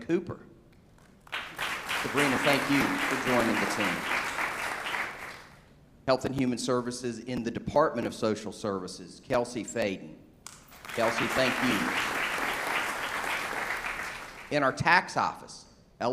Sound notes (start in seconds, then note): 1.0 applause; 7.2 applause